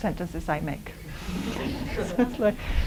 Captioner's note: laughter